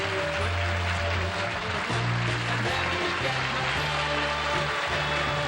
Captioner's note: applause